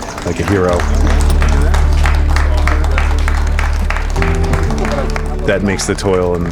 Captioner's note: onlookers Applaud